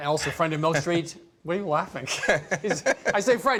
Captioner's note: laughs